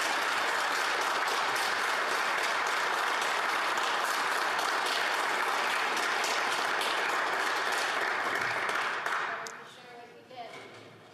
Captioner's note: applause